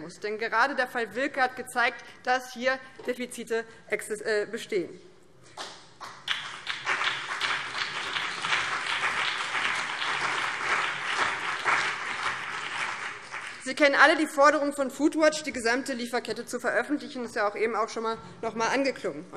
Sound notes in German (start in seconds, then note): 6.0 Beifall BÜNDNIS 90/DIE GRÜNEN und vereinzelt CDU